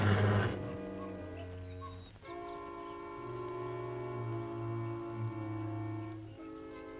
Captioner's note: birds chirping; Joe chattering